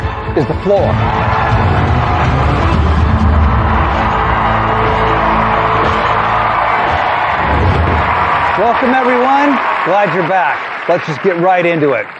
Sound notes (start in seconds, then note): 1.1 cheering and applause; 1.1 dramatic music